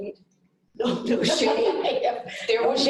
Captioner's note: laughter